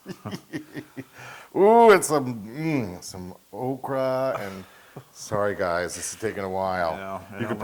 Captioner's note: laugh